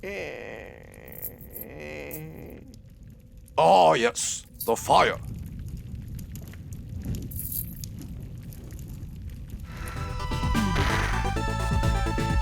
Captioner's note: Fire sizzles. Gorganx moans